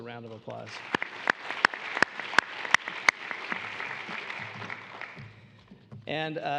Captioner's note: applause